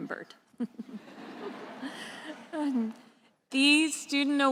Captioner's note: attendees laughing